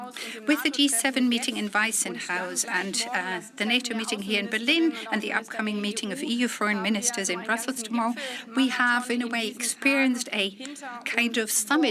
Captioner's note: speaks in German